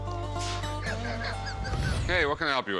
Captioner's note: laughs